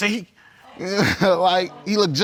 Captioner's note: chuckles